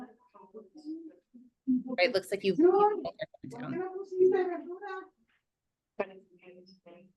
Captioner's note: participant talking in a foreign language